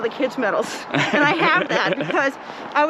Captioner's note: laughs